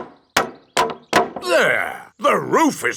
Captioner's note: hammering